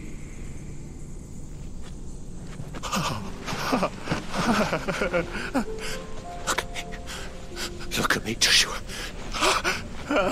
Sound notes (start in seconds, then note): 2.6 weeping